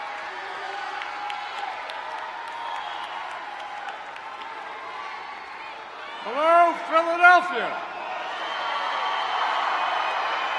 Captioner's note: applause